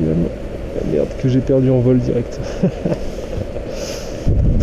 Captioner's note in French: ricane en pleurant